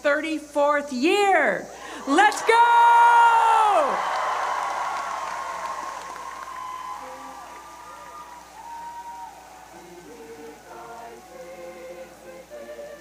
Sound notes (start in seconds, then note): 2.0 cheering